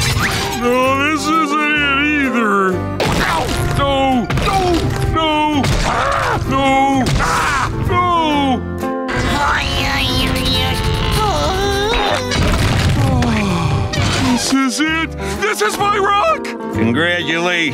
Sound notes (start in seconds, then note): 8.9 grunting; 12.9 sighing